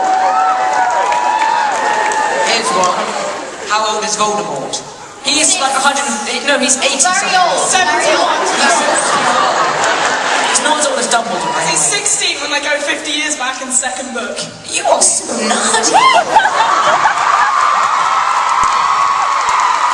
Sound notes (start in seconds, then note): 15.8 audience cheering